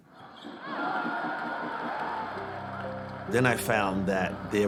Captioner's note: crowd cheering